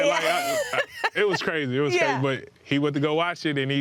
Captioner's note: laughing